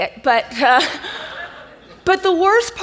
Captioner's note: audience laughs